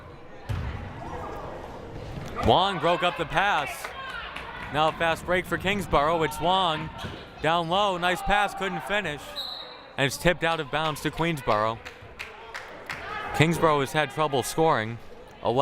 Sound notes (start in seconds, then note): 9.3 whistle blaring